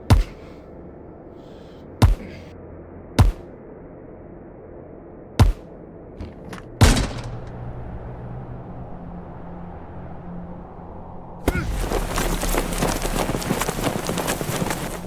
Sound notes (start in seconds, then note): 0.2 object thuds; 8.4 wind blowing; 11.4 body thudding; 11.7 person grunts